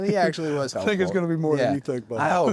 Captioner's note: laugh